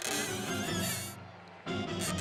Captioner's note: crash; squeaking